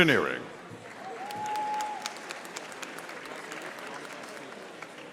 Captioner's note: audience applauding